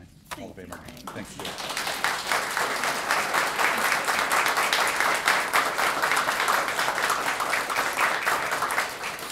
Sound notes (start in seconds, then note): 0.6 applause